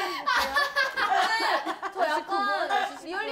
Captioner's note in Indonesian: kkk